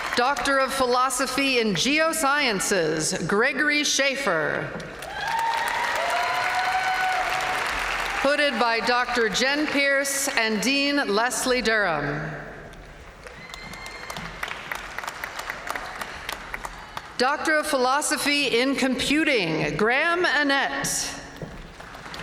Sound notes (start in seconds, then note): 5.0 audience cheering; 13.2 audience cheering